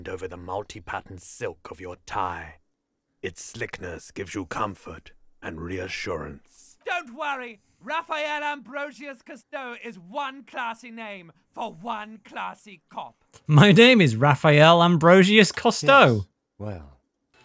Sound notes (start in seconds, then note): 13.7 laugh